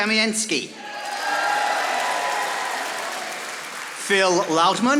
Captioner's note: audience applauding